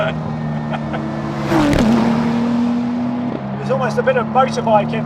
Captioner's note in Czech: se směje; řvoucí motor auta